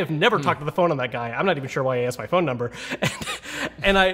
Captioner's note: chuckles